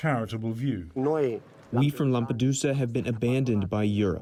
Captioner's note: through translator